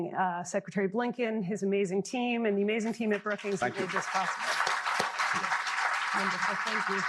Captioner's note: applause